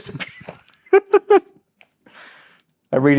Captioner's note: laughs